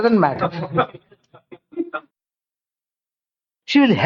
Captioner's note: laughs